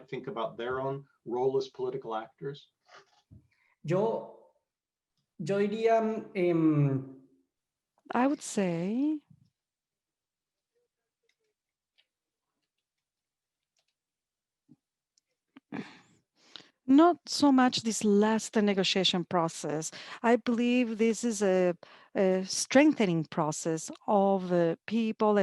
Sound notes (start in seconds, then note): 3.7 in foreign language